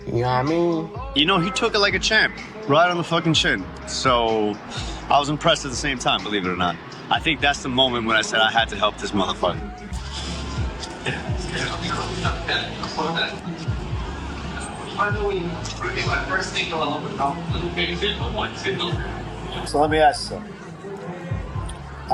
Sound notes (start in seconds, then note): 9.8 background chatter